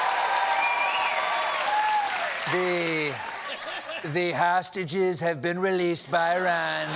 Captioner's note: cheers and applause